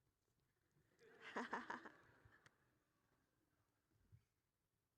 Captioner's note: all laughing